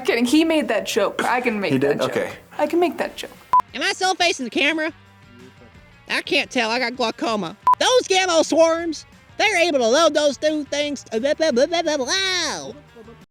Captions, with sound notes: I'm kidding. He made that joke. I can make that joke. - He did? Okay. - I can make that joke. - Am I still facing the camera? I can't tell. I got glaucoma. (test card beeping) Those Gamo Swarms, they're able to load those dang things. (squirrel gibbering)